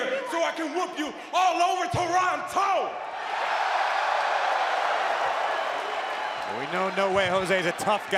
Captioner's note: crowd cheering